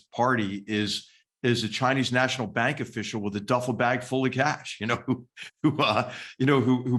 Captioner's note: laugh